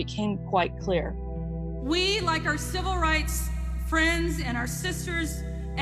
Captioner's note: soundbite of archived recording